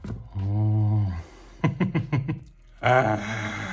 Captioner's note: laughs